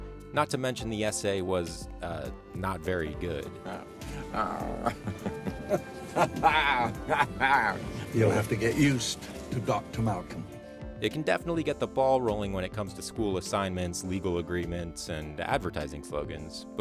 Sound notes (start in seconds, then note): 3.6 laughs